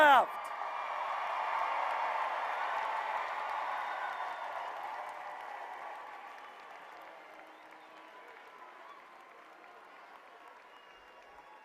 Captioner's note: applause